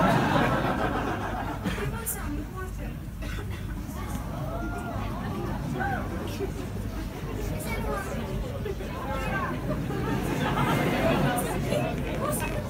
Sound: … quiet talking …

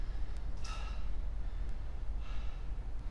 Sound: breathing heavily

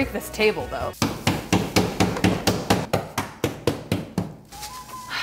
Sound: banging on table

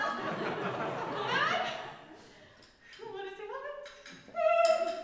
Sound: audience laughs

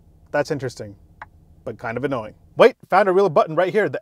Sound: clicking

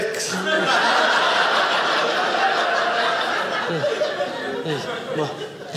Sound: audience laughing

